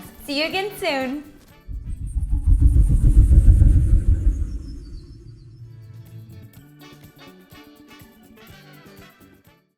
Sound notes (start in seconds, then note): 1.6 air whooshing; 6.6 upbeat music